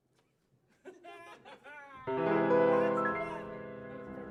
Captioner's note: all laughing; soft piano music